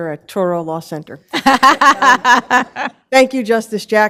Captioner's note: laughter